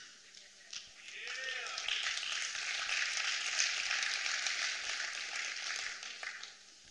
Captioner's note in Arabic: تصفيق